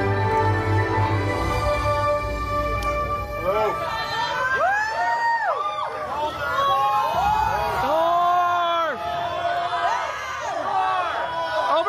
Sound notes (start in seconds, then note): 4.1 guests cheering